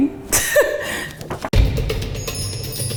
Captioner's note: chuckles; calm music plays